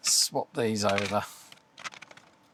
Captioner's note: clicking